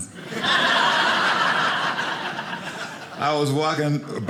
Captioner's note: audience laughing